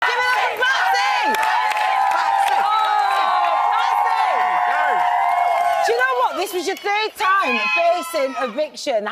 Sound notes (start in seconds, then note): 0.0 audience chants